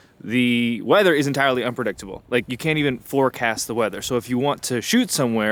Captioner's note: none